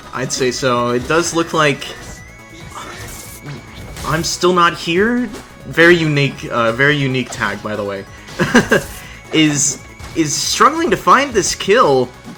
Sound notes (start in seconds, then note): 8.3 laughs